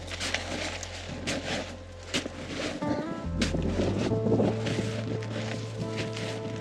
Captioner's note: boots clunking and snow crunching